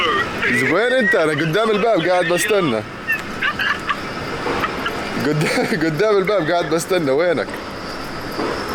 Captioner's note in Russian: смеётся